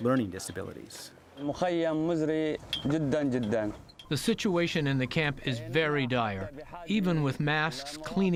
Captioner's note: through translator